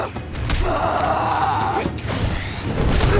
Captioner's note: both grunting